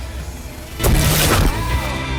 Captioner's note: explosion booms